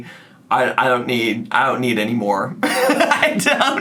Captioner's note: laughs